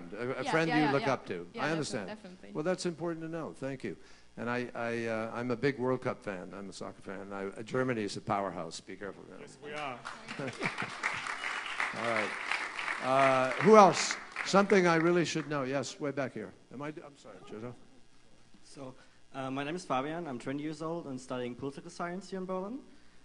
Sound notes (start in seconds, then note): 12.3 applause